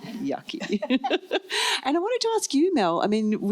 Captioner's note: laughs